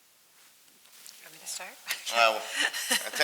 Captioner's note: laughs